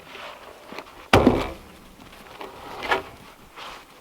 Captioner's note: log thumps